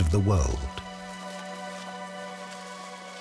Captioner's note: rustling